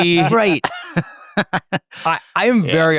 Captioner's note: hosts chuckling